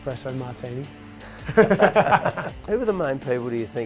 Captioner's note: laughs